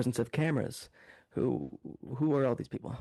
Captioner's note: speaking French